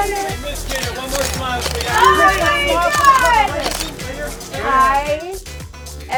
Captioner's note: cameras clicking; paparazzi shouting